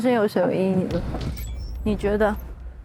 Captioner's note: steps